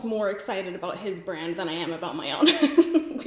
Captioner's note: laughs